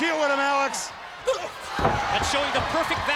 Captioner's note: blows thudding; footsteps plodding